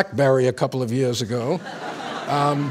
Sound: laughter

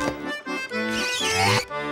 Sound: sliding

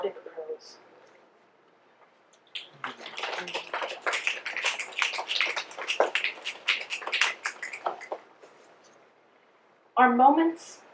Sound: applause and snaps

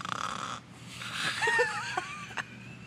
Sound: laughter

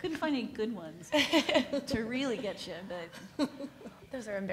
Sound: laughs

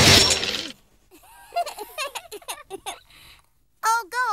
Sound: laughing

